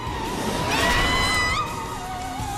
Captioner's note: Shulk: "NOOOOOOOOO!"; Death scream from Fiora